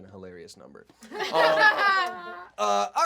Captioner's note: laughing